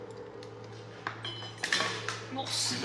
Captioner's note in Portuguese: coisas caindo